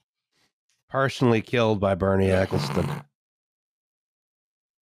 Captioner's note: snorts